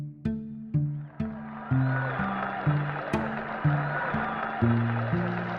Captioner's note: cheers and applause